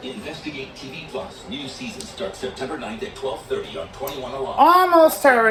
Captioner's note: "21Alive News at 5" plays in the background